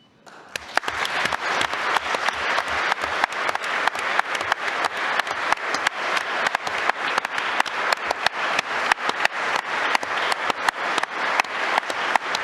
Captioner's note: applause